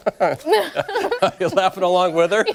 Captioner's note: laughter